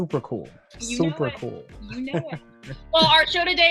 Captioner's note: chuckles